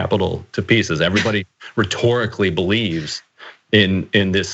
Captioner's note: laugh